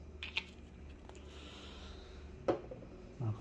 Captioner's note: closing ink bottle cap